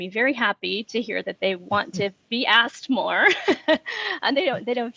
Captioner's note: laughs